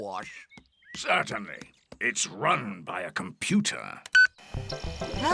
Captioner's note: beeps